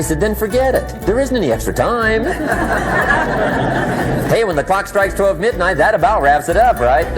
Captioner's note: laughter